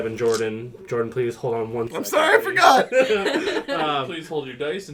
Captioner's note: the clacking of dice together like delicious gems; laugh